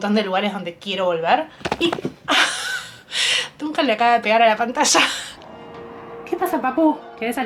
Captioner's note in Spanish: risas